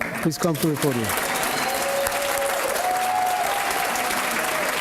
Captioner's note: applause